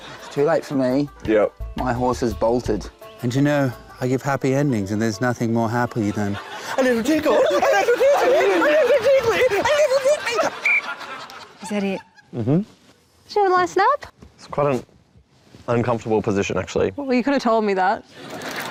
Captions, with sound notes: It's too late for me. Yep. My horse has bolted. (UNSETTLING ENGLISH ACCENT) And you know, I give happy endings, and there's nothing more happy than... ..a little tickle! A little tickle! A little tickly! A little tickly! (BLOWS WHISTLE) Is that it? Mm-hm. Have a nice nap? It's quite an... ..uncomfortable position actually. Well, you could have told me that.